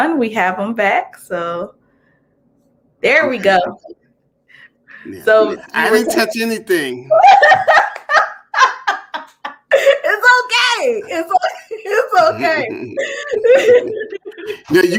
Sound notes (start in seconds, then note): 7.0 laughter